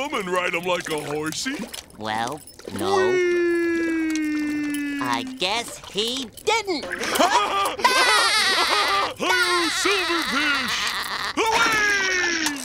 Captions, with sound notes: and ride them like a horsey? Well, no-- -Wee! I guess he didn't! [laughing] High ho silver fish, away!